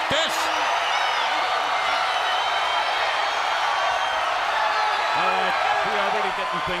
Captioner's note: crowd cheering